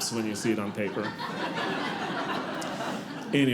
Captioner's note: audience laughing